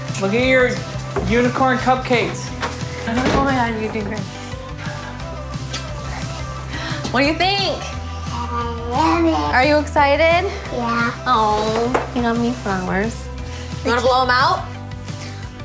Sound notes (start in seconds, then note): 5.7 kissing sounds